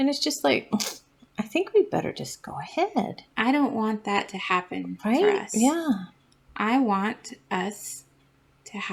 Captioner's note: tsk